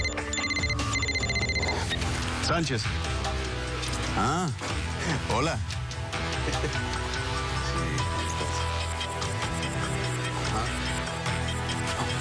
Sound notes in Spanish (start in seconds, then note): 0.0 Suena el celular